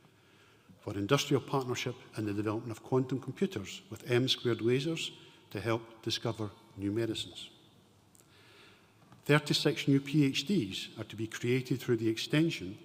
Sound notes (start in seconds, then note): none